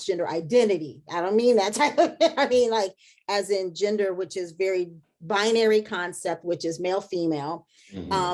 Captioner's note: chuckle